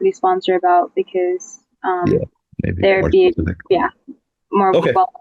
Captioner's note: overlapping chattering